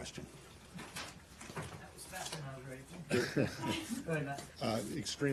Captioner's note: laughter